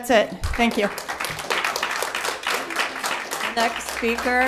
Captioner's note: applause